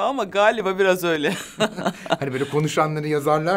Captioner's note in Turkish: Gülüyor